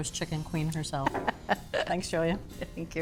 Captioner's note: chuckles